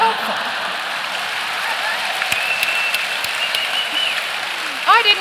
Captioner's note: cheering and applause